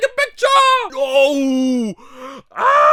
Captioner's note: inhales